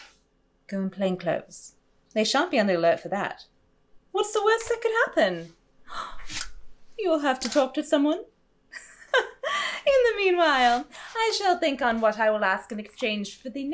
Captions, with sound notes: Go in plain clothes; they shan’t be on the alert for that. What’s the worst that could happen? [gasp] You’ll have to talk to someone? [laugh] In the meanwhile, I shall think on what I’ll